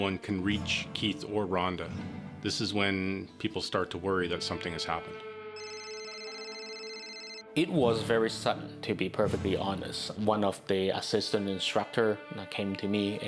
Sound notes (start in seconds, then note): 5.6 phone ringing